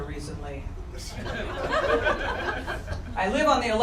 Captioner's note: audience laughter